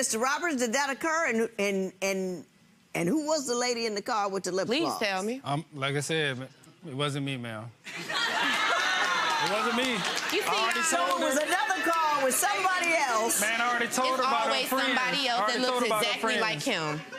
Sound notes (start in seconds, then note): 7.9 laughing